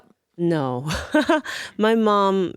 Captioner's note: laughs